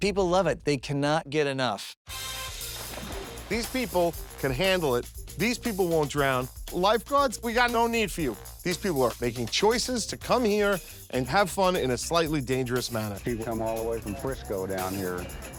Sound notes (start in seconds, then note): 1.6 funky upbeat music; 2.3 water splashing